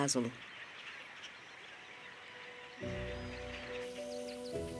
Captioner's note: birds squawking